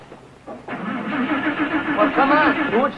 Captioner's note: car revving